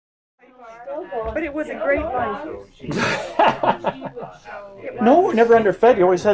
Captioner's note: laughs